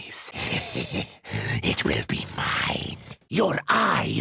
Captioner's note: sinister chuckle